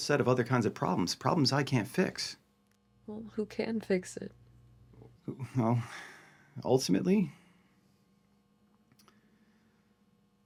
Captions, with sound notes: of other kinds of problems, problems I can't fix. - Well, who can fix it? - Well, (sighs) ultimately,